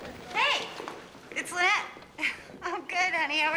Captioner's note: chuckles